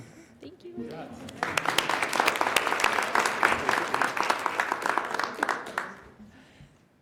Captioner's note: applause